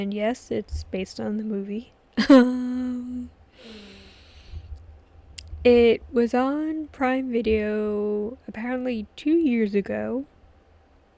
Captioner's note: laughs